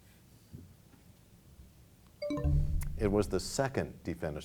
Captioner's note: bell chimes, time expires